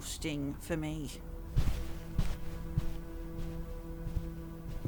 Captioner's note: Audrey's footsteps fade as she leaves